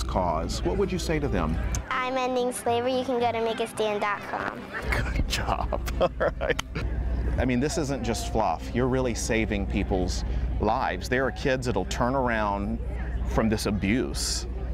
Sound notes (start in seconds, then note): 4.6 laughing